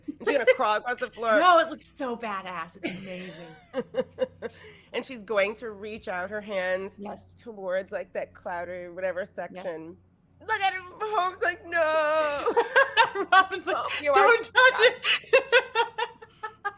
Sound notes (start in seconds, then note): 0.0 laughing; 11.8 laughing